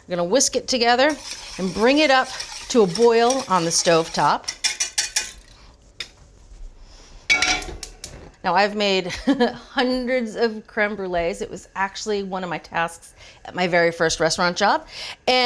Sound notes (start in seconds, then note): 4.9 whisker tapping; 7.5 cooking pot buzzing